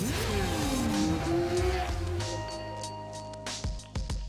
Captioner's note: motorcycle roar